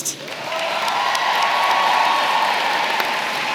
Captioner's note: applause